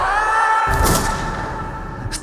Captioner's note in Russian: Выстрел